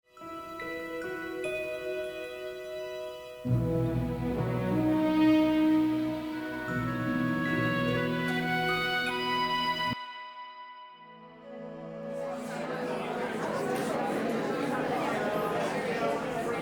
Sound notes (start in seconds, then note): 11.9 crowd murmering